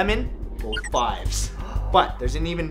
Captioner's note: gasp